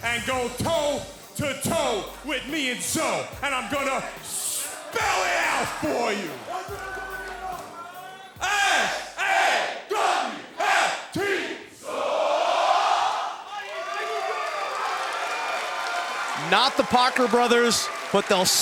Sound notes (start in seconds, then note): 12.1 crowd cheering